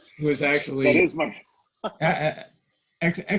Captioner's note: laughing